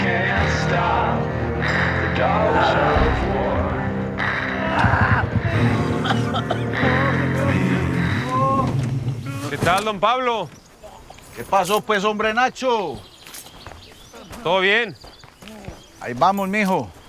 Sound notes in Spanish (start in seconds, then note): 2.4 Gritos; 8.3 Quejidos